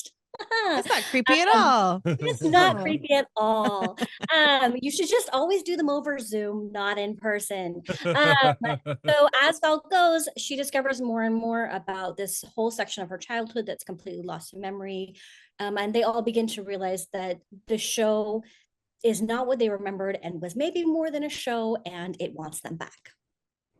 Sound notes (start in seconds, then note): 7.9 laughs